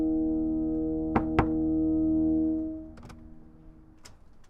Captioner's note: knocking on door